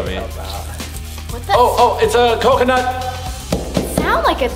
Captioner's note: banging